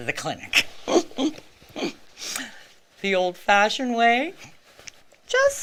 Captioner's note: chuckles